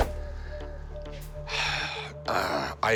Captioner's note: sighs